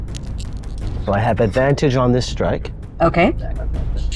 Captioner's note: dice rattling